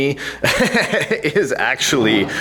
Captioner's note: laughs loudly